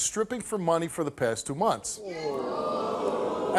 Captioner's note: audience ohs